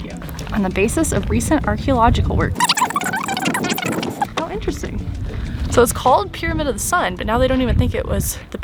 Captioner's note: voice fast forward